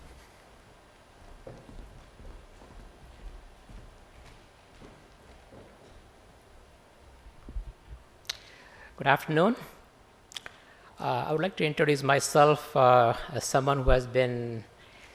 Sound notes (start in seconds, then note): 1.5 silence